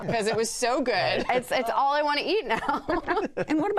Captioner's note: laughter